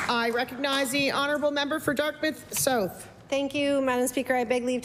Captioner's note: applause